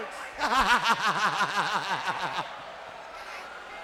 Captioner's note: Buff laughs